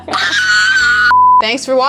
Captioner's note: screams